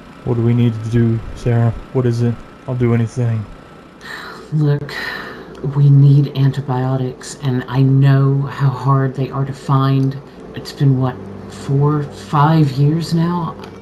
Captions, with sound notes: What do we need to do, Sarah? What is it? I'll do anything. Look *sigh* we need antibiotics and I know how hard they are to find. It's been what? 4, 5 years now?